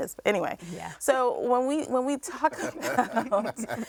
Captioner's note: laughs; man chuckling